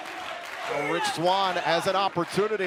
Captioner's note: crowd cheering